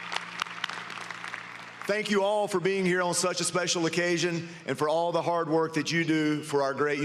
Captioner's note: applause